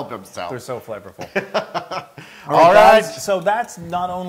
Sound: laugh

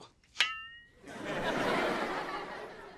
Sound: dings

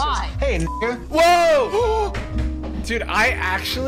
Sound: gasps

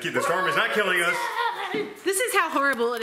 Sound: yelling

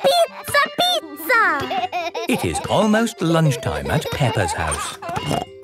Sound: laughing

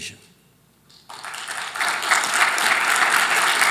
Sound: applause

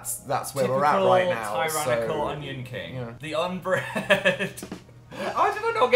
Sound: laughs

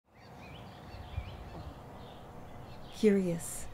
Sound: birds chirping

